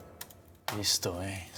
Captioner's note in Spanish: sonido al teclear